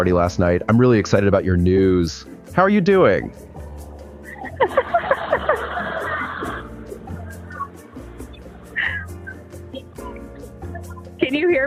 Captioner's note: laughs